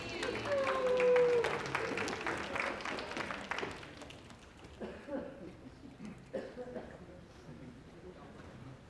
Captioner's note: applause